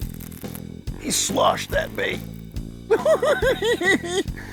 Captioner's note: giggling